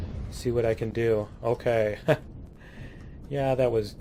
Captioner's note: laughs